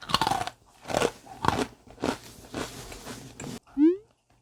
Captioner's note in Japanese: カリカリ